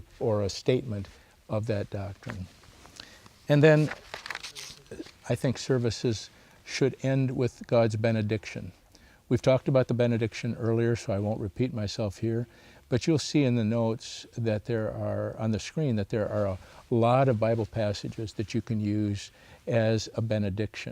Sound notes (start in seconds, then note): 3.5 paper rustles